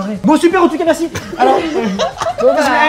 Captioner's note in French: rires